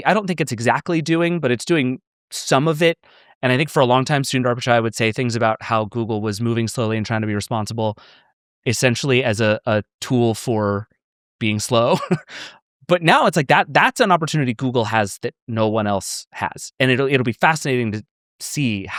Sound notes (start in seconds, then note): 11.7 chuckles